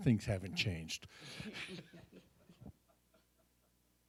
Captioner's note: all laugh